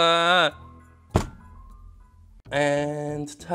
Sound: object thudding

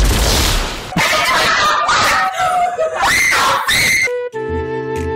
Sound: unintelligible, high pitched screaming

